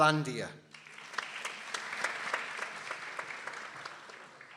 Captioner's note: people applauding